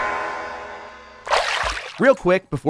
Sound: water splashes

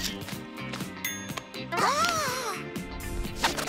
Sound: gasping

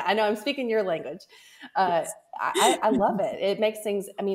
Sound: laughs

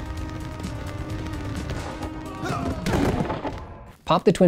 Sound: a soundscape of identical overlapping footfalls and grunts of exertion

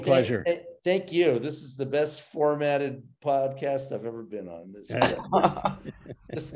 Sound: all laughing

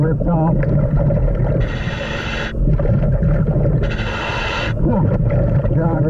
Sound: water bubbling; mouthpiece hissing

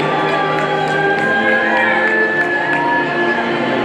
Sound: people cheering

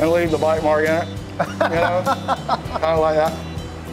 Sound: laughing

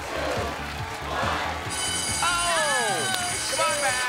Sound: alarm blares

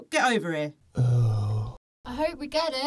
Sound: sighs in whore

